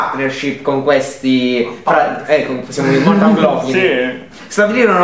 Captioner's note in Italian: risata